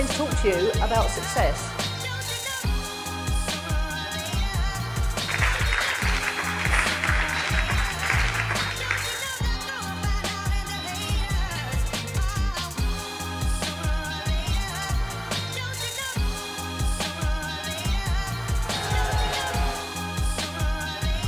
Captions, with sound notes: I'm going to talk to you about success. (applause)